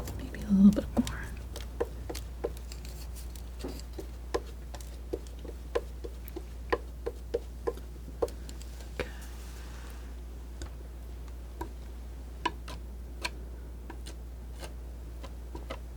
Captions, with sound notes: Maybe a little bit more. (scratching) Good. (scratching)